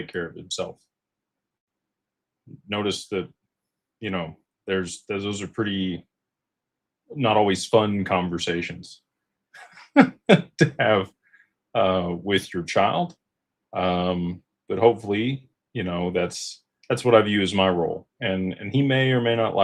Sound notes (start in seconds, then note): 9.6 laughter